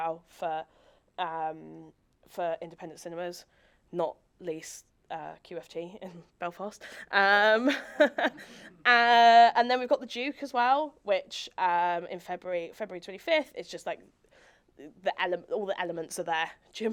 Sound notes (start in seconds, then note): 7.6 audience chuckling; 7.6 chuckles